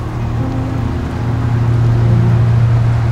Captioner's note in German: Motorensurren